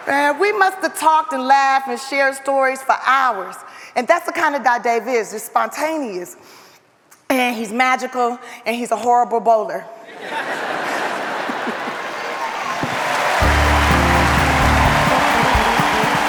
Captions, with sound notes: Man, we must have talked and laughed and shared stories for hours and that's the kind of guy Dave is, just spontaneous and he's magical and he's a horrible bowler. [audience laughs] [audience applauds]